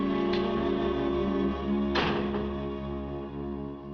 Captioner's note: door Closes